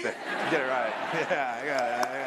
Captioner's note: applause